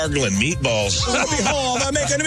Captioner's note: laughing